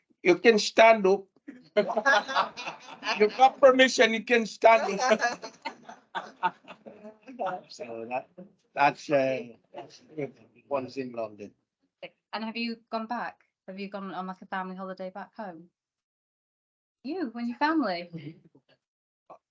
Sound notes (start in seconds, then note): 0.3 laughs; 7.7 panel and audience laugh